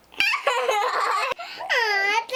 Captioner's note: nervous laughter